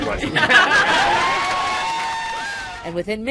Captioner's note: cheering; applause